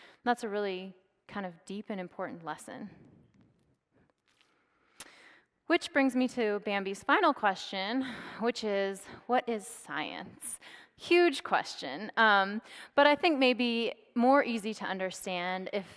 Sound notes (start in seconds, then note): none